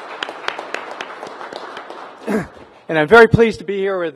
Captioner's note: applause